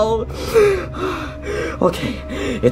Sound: sobbing; Luigi panting

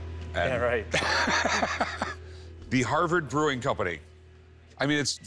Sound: laughs

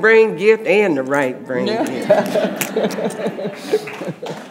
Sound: audience laughing; audience applauds

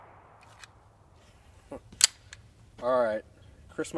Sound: chuckles

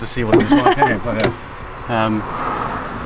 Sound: laughs

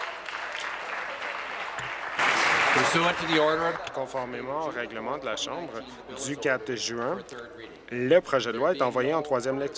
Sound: applause

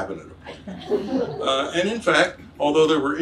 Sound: audience laughs

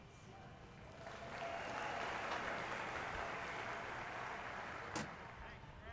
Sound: audience applauding

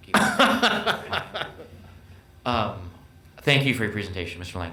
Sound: laughs

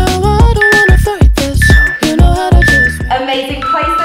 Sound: workout timer beeping

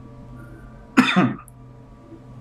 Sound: coughs

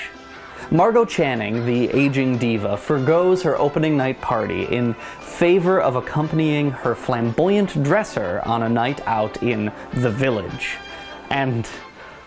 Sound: voice over

